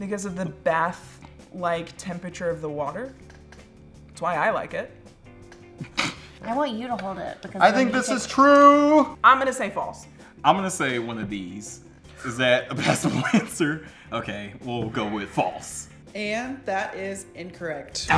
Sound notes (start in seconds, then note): 6.1 laughs; 12.4 audibly inhales; 13.6 laughs